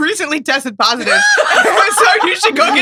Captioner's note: laughs